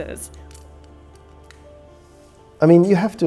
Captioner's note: strap clattering